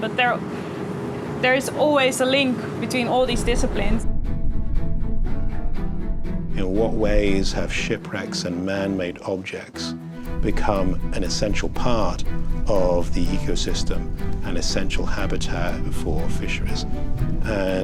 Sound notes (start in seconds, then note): none